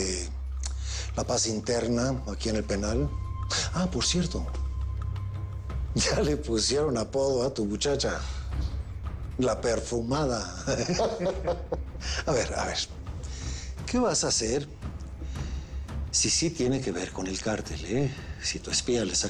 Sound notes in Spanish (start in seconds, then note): 10.6 Risas